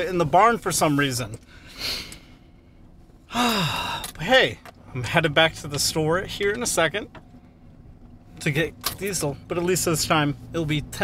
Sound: deep Breath

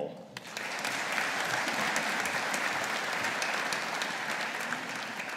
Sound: audience applauding

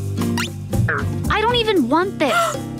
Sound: gasping

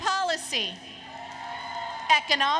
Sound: applause, Cheering

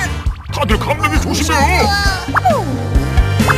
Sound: talking, talking

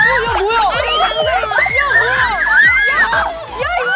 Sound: running

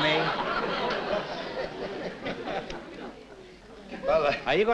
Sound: laughter

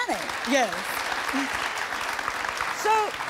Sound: audience applauding

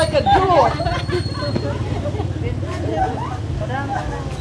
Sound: laughing

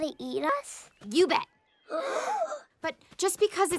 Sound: gasping

